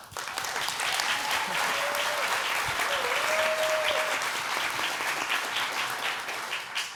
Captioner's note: applause